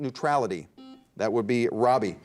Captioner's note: buzzer dings